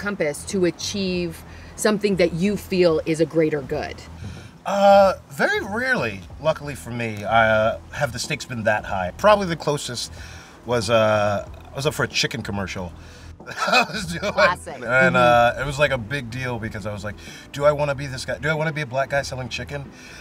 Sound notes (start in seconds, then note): 13.5 laughs